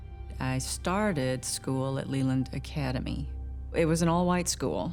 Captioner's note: none